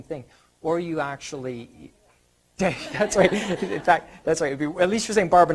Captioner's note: audience laughter